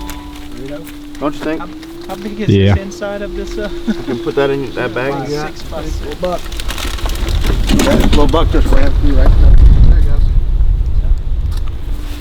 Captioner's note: soft voices